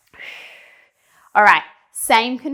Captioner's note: breathing sharply